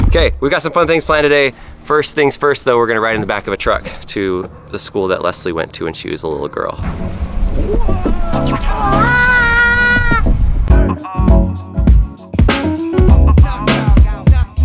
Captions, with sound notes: Okay, we get some fun things planned today. First things first though, we're gonna ride in the back of the truck to the school that Leslie went to when she was a little girl. (screaming) (upbeat music)